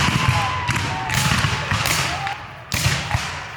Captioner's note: guns fire